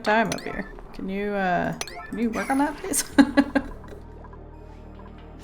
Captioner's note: laughs